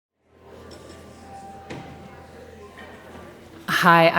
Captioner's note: audience muttering